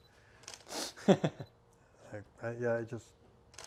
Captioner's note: laughing